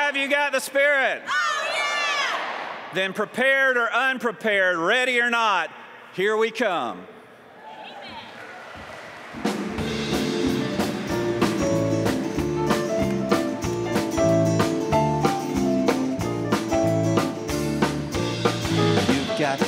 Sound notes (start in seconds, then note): 13.1 applause